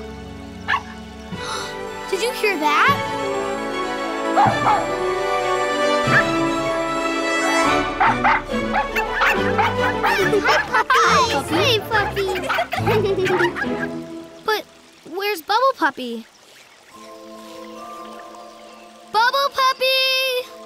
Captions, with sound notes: [barking] [gasping] Did you hear that? [barking] [barking] [barking] - Hey, puppies. - Hi, puppy. [laughing] But where's Bubble Puppy? Bubble Puppy!